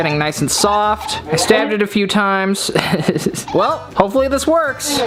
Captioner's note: chuckles